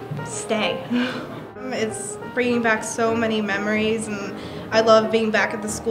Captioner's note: laughs